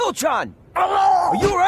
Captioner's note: hurt sound